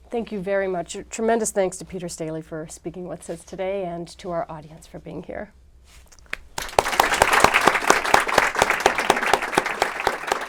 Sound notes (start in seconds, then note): 6.5 applause